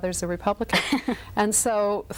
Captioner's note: laughs